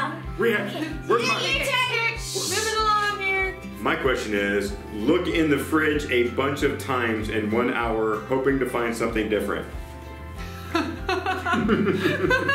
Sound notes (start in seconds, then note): 10.7 laughing